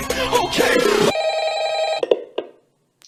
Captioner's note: phone rings